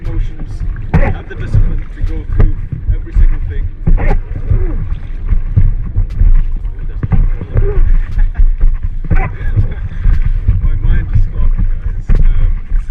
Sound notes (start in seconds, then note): 7.5 chuckles